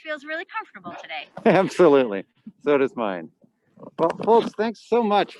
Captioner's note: laughs